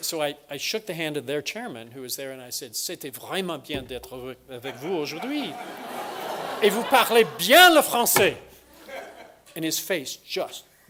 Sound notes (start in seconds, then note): 3.3 speaking french; 4.6 laughter; 6.5 speaking french